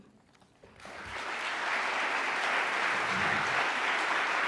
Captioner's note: audience applause